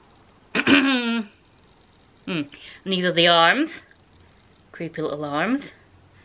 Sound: ahem

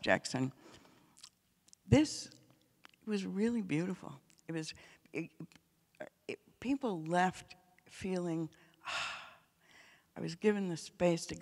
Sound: breathes

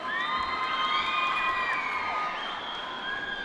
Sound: applause

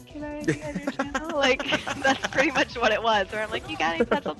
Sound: laugh

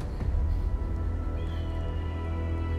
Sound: eagle squawking

